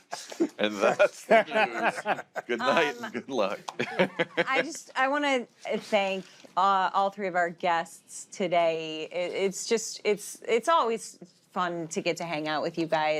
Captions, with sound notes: And that's the news. -Good night and good luck. -(LAUGHS) I just, I want to thank all three of our guests today. It's always fun to get to hang out with you guys.